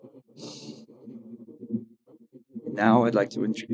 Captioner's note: sniffs